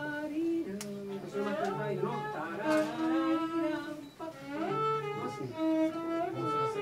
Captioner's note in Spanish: tarareo